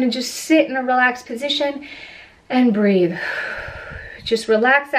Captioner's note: exhales